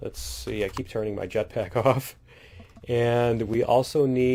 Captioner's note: laughs